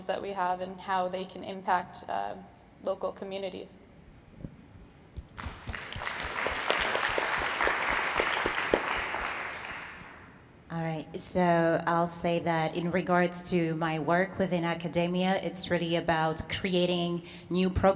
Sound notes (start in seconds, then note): 5.3 audience applauding